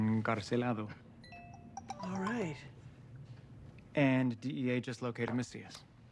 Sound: phone chimes

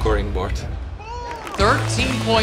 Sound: cheering

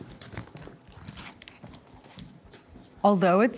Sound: paper rustling

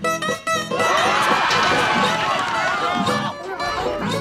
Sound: screaming

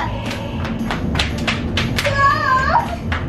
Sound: footsteps running

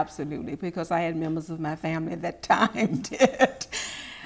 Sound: laughing

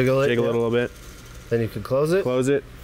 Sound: seeds clattering against each other

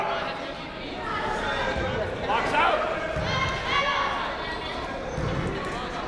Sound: people shouting in the crowd

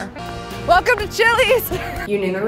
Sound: laughs

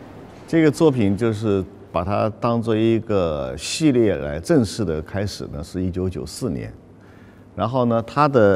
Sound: Mandarin

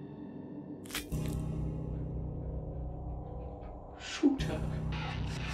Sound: squelching

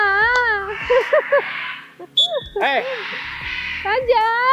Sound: chuckled

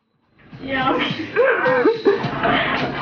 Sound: laughs

